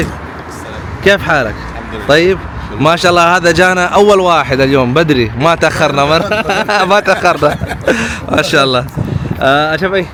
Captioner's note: Arabic